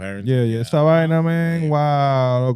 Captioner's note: speaking Foreign Language